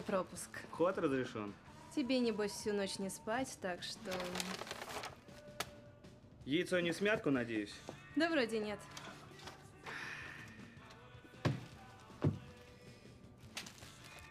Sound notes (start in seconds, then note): 7.9 sighs